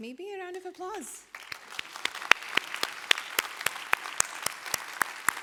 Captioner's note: applause